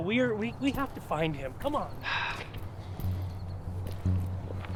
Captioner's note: heavy sigh